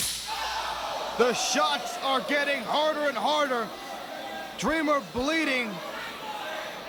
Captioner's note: crowd cheering